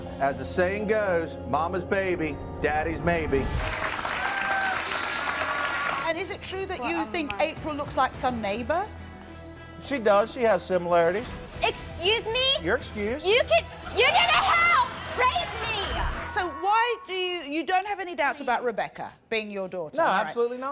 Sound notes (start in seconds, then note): 3.5 applause